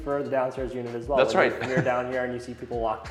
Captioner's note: laughs